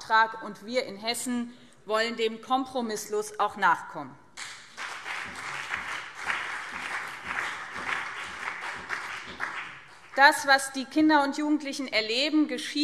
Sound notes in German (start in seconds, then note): 4.4 Beifall BÜNDNIS 90/DIE GRÜNEN und CDU